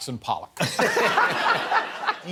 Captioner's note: laughter